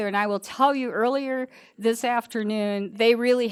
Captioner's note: none